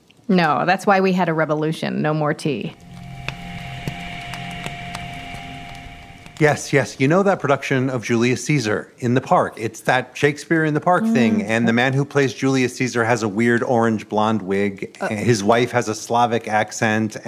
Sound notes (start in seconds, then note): 2.6 dissonant whoosh; 5.3 fireplace crackling